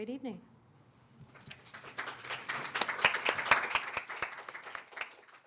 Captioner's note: applause